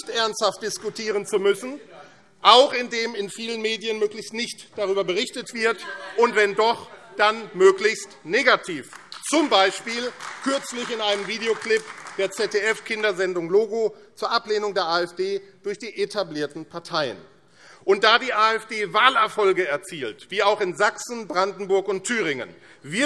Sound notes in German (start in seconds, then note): 8.6 Beifall AfD